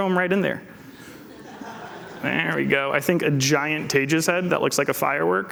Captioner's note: laughter